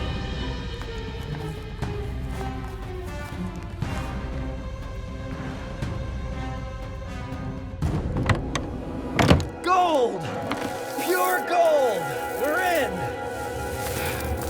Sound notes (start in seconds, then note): 0.2 shovel scrapes; 5.5 dramatic music plays; 10.2 wood creaks